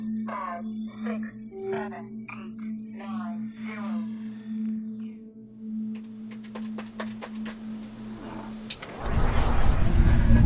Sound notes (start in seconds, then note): 5.6 keyboard typing